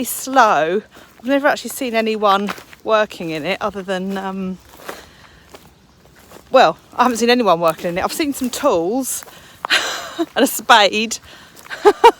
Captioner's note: laughs